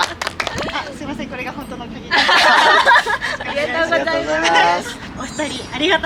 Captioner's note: laughs